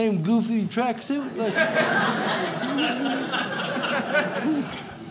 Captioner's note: audience laughs